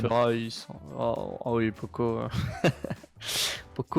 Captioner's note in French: rigole